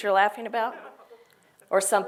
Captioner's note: laugh